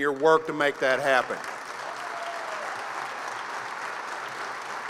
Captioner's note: applause